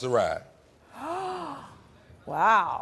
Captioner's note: Trisha gasps